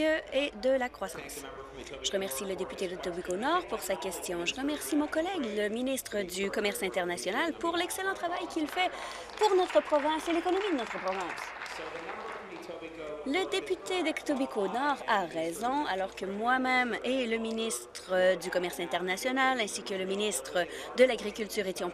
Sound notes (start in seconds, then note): 14.3 applause